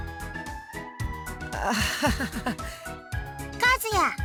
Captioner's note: awkward laugh